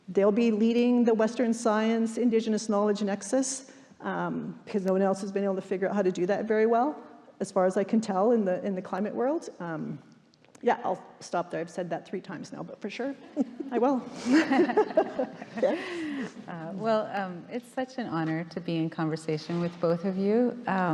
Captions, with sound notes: They'll be leading the western science, indigenous knowledge nexus 'cause no one else has been able to figure out how to do that very well as far as I can tell in the climate world. Yeah, I'll stop there. I've said that three times now, but for sure I will. (all laughing) - Well it's such an honor to be in conversation with both of you